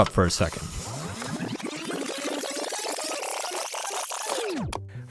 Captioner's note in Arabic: إعادة لف التسجيل